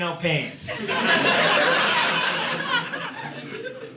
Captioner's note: audience laughing